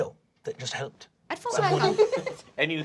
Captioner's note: laughing